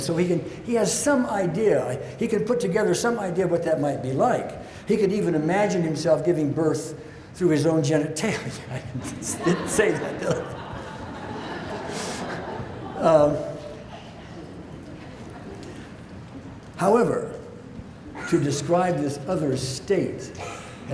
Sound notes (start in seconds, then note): 8.5 laughs; 10.2 audience laughs